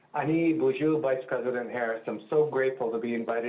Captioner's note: foreign language